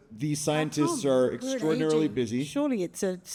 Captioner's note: speaking faintly